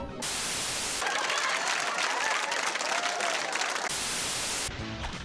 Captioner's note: laugh track